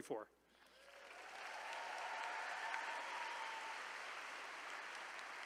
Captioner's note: attendees cheering